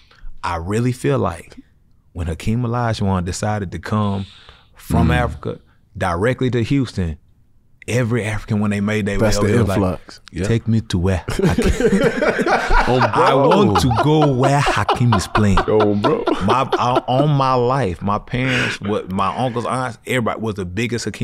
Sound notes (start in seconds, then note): 11.3 laughs